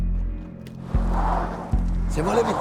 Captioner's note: tire screeching